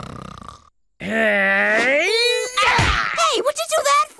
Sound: grunts

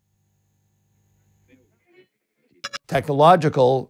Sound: circuit clicks

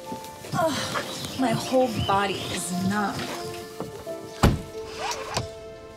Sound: groans

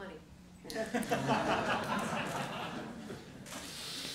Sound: laughter

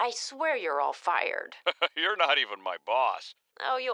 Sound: laughs

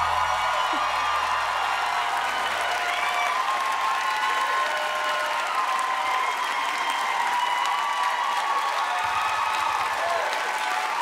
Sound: applause

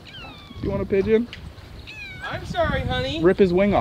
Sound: cat meowing

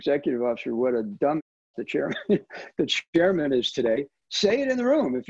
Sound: chuckles

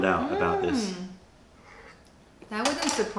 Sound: sips tea

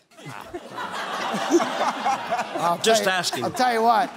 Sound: laughter

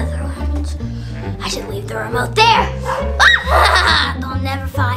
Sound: laughs evilly

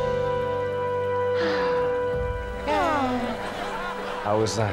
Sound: sighing

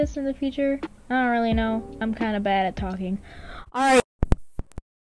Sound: mic freaking dies

